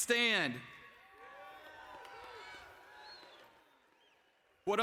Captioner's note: applause